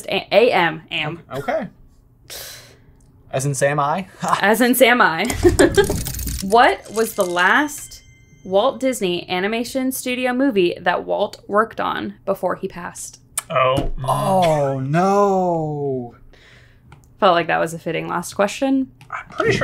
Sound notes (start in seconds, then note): 5.3 laughs